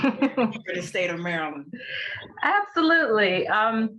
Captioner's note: laughs